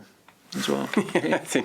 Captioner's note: laughter